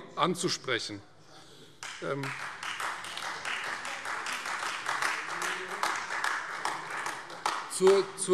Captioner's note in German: Beifall Freie Demokraten und AfD